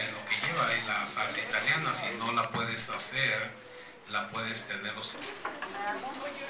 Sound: speaks in Spanish

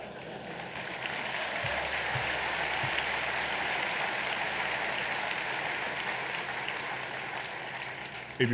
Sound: applause

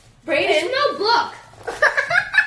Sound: giggling

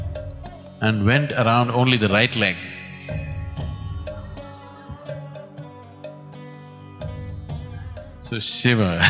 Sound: laughter

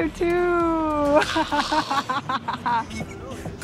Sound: laughs

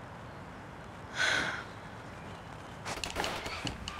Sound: sighs; door squeaking

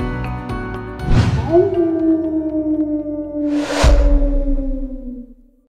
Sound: coyote howl

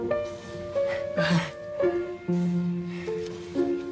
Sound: half-laughs

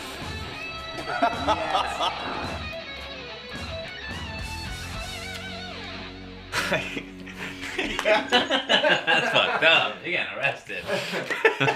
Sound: laughs

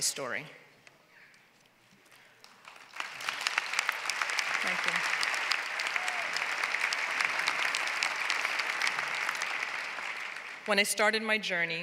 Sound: applause

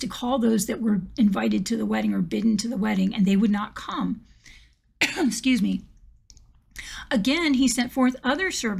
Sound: coughs

